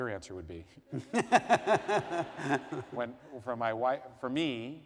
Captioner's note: laughter